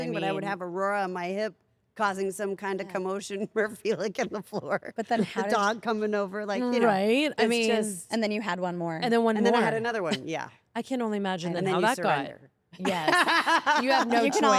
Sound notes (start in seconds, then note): 4.8 laugh; 11.6 laugh